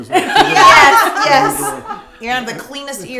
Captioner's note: group laughing